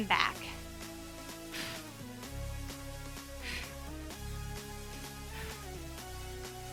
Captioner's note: upbeat music continues; breathing deeply